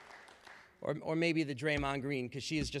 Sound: applause

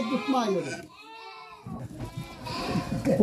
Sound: lamb sheep bleating sounds meeee meee meee

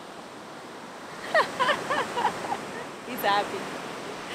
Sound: laughing

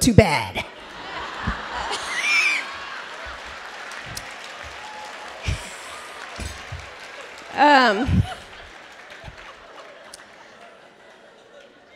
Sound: laughter

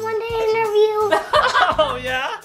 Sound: laughs

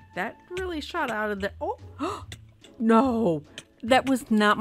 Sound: gasph

